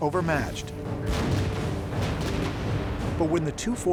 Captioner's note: cannon fire